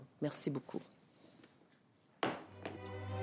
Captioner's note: speaking French